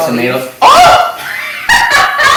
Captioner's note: screams; laughs